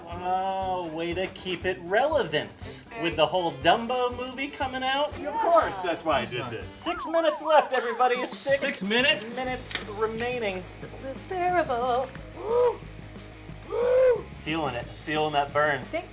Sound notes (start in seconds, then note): 10.8 sing-song